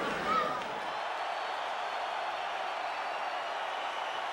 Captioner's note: spectators chanting "Sabu!"; spectators cheering